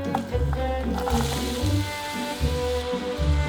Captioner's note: onions sizzling